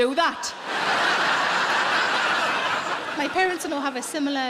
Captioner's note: audience laughing